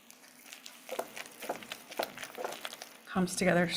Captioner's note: bowl thudding